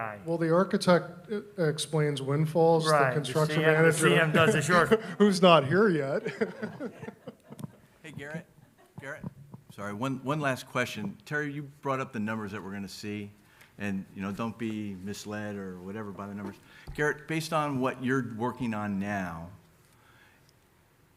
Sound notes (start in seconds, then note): 6.0 laughs